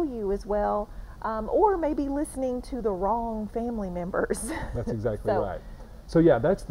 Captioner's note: laughing